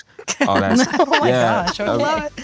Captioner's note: all laugh